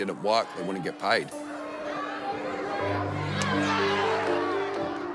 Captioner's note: chatter